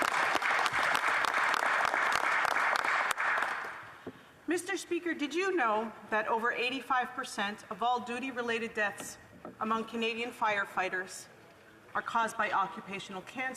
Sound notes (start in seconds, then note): 3.6 applause